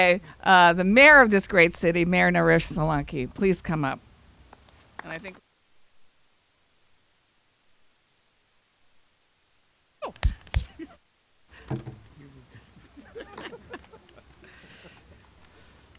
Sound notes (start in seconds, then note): 4.8 applauding; 12.2 laughing